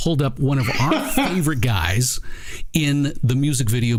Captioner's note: laughter